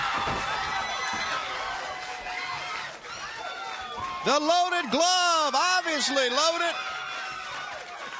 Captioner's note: crowd cheering